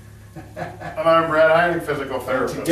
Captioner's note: laughing